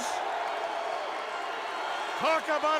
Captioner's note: crowd cheering